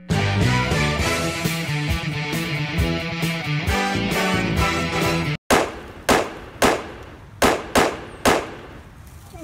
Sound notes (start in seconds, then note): 0.1 exciting music; 5.6 gun shots